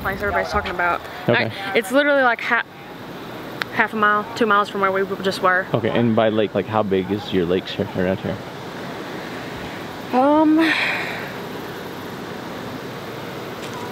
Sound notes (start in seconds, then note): 10.5 sighs